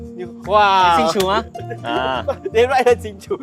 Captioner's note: in Hokkien